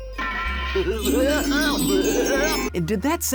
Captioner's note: 'princely laugh